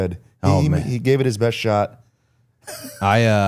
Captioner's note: laughing